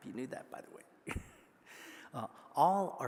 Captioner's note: laughing